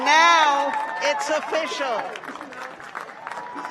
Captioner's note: cheers and applause